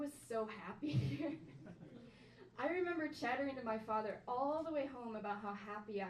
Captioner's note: chuckles; audience chuckles softly